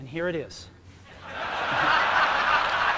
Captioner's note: laughter